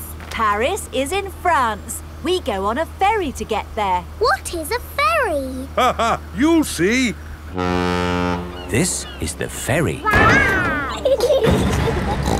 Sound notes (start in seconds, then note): 5.5 laughing; 7.4 ferry horn blows; 10.0 giggling; 12.2 snorts